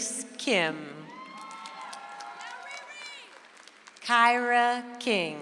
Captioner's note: audience applauds